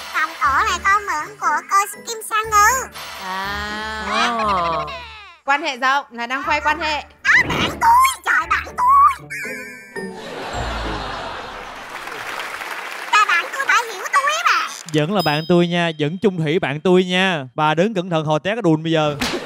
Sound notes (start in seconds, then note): 10.2 laughing; 11.6 applause